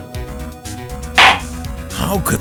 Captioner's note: gavel slam!